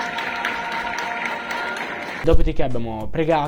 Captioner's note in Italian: Applauso